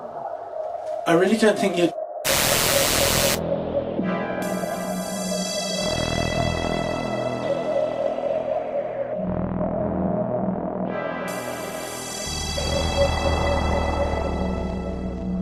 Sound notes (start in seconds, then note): 2.3 gun firing; 2.3 tense music